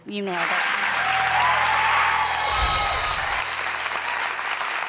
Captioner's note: audience applause